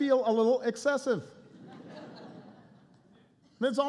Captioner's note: laughter